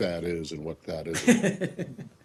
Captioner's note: laughter